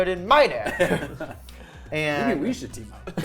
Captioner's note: players laughing